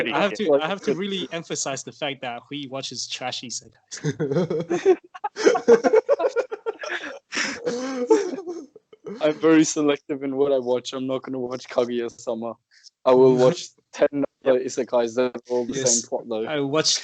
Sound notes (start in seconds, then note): 4.0 laughter; 8.8 mockingly